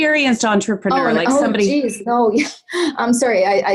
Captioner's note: chuckles